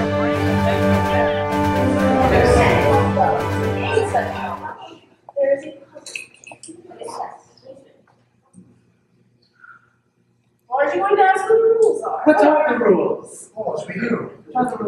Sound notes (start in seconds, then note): 2.3 indistinct chatter